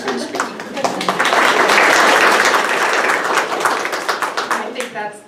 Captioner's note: audience applauding